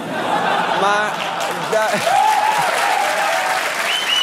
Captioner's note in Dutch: applaus en gejuich